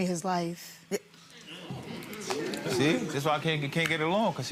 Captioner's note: spectators chattering